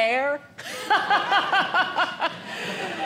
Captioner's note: audience laughing